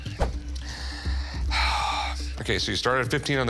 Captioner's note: sighs